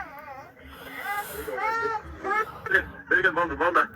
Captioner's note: crying